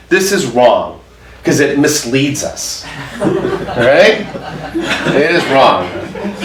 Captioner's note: audience laughs